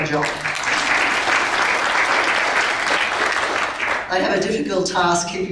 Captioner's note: crowd applauds